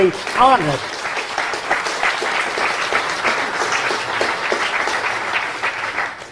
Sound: applause

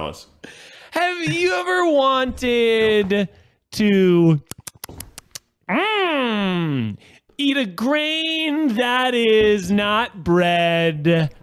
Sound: smacks lips

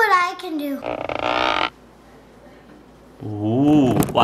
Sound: creaking sound effect

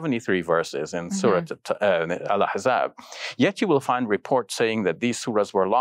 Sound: speaking foreign language

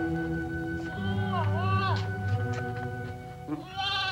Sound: bleating

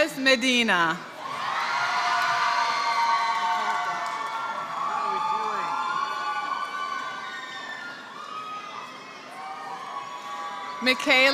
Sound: applause

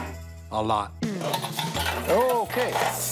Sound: clattering

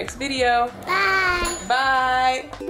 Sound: dings

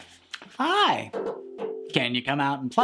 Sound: knocks on ukulele

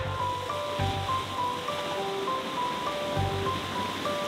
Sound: gentle music; water splashing

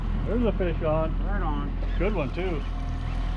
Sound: boat engine running

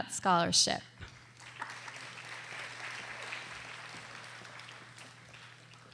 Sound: audience applauding

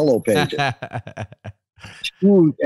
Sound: laughs

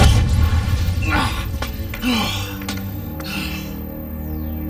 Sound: labored breathing

